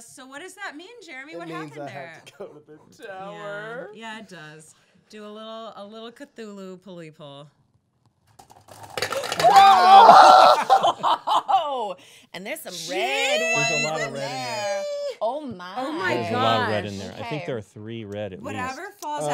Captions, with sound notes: - So what does that mean, Jeremy, what happened there? - It means I have to go to the tower. - Yeah, yeah it does. Do a little Cthulhu pully pull. - Oh! (marbles clattering) (laughing) - And there's some red ones in there, oh my. - Oh my gosh. - I think there are three red at least.